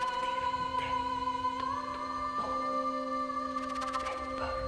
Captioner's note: soft suspenseful music; whispering continues